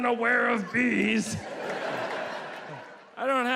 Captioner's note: audience laughs